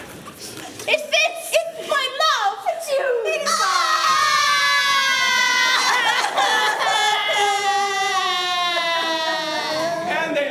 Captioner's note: crying